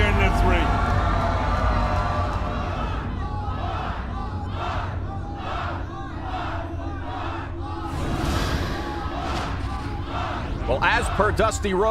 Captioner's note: crowd cheering